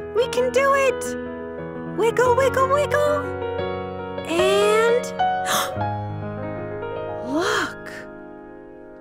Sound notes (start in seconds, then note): 5.4 gasps